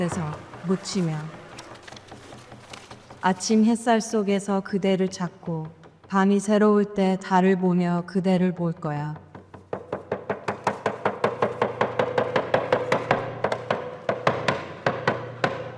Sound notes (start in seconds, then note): 2.8 speaker speaking in foreign language; 10.8 drum beating